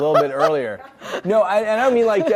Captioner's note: audience laughs